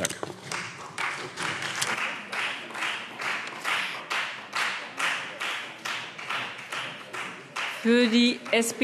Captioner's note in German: Beifall Freie Demokraten